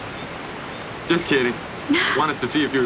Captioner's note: chuckles